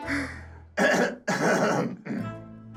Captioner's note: clears throat